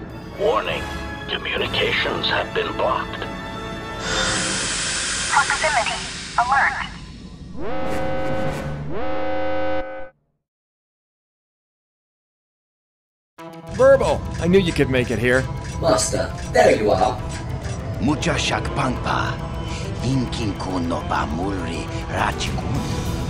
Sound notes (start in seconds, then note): 7.5 alarms